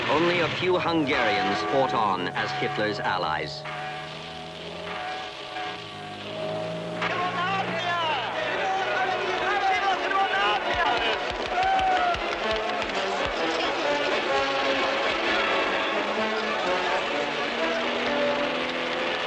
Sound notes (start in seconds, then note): 3.9 bell ringing; 7.8 crowd speaking in foreign language; 12.6 triumphant music